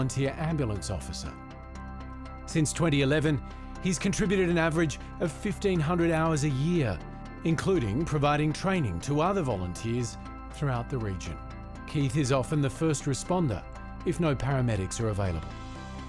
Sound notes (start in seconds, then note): none